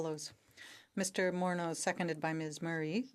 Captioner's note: speaking French